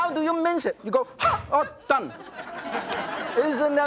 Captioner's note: yelps; audience laughs